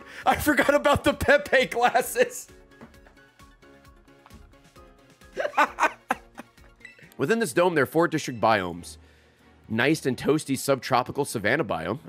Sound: laughs

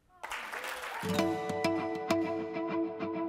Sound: applause

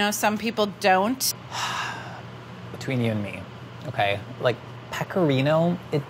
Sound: sighing

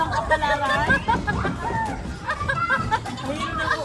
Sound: laughs

